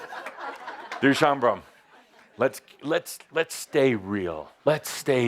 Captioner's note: laughter